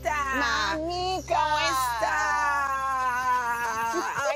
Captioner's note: speaks in foreign language